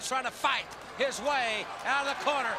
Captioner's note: crowd chatter